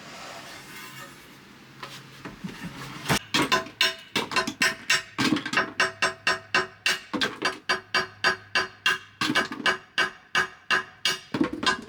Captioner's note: metal grinding